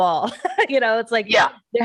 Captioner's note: chucking